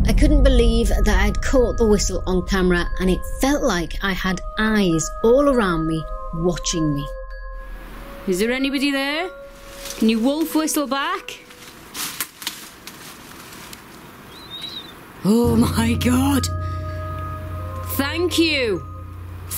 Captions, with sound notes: I couldn't believe that I had caught the whistle on camera, and it felt like I had eyes all around me, watching me. Is there anybody there? Can you Wolf whistle back? (whistle) Oh my God! Thank you!